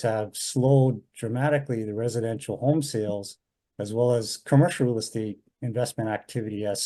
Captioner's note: none